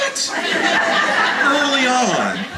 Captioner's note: audience laughter